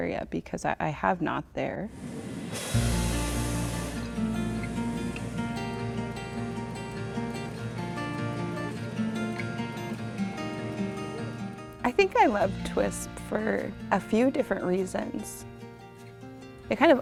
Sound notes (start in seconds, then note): 1.8 air hissing; 2.6 gentle music